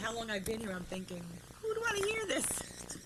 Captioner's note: laughs